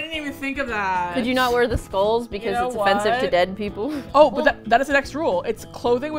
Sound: laughs

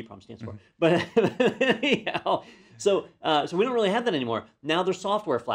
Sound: laugh

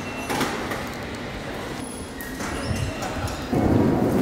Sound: metal clanking

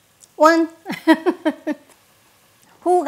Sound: laughs

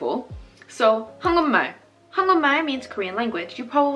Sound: speaking Korean

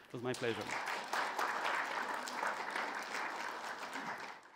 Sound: audience applauds

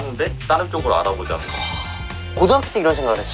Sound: sound of admiration

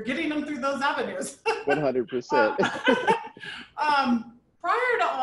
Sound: people chuckling

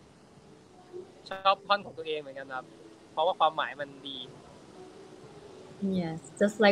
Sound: continues in Thai

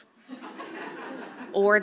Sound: audience laughs softly

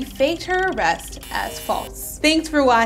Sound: meter buzzing

